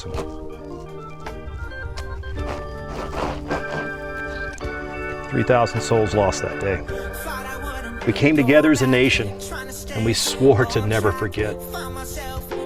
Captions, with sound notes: [shoe scraping dirt] 3000 souls lost that day. We came together as a nation. And we swore to never forget.